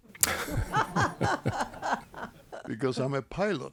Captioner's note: laughter